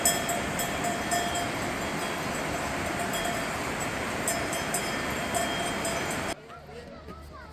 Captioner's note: a peaceful village filled with the sounds of wananang and water